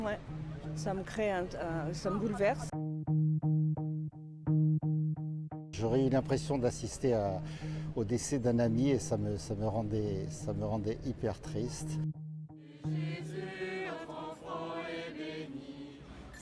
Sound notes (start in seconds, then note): 4.8 speaking french